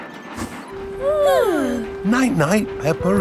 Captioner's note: both yawning